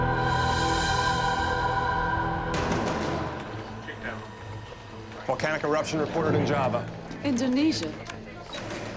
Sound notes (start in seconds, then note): 2.6 beeping; 3.2 indistinct chatter